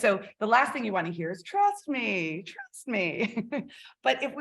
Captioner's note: chuckles